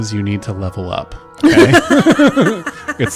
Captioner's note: laughs